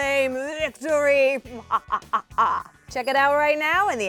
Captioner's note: laughs maniacally